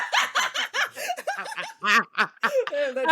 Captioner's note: laughs